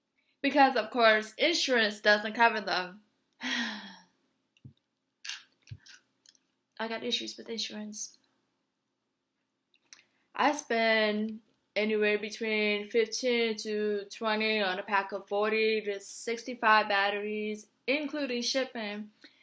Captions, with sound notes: Because of course, insurance doesn’t cover them. *sighs* I have issues with insurance. I spend anywhere between $15 to $20 on a pack of 40 to 65 batteries, including shipping,